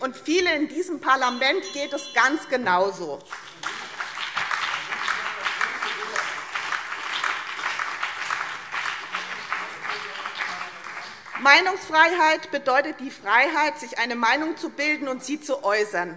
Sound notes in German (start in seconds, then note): 3.2 Beifall BÜNDNIS 90/DIE GRÜNEN und CDU - Zurufe AfD